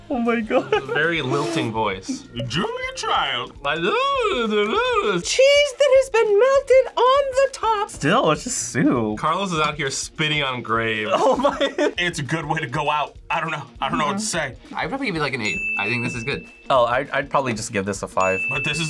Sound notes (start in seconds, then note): 0.2 laughs; 3.8 mimics lilting voice; 11.1 laughs